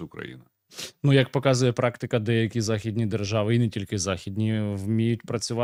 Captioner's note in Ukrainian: сопіння